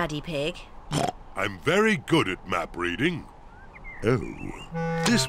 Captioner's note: oinks